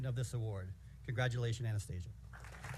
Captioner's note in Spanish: aplausos